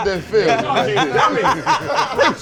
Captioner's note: laughter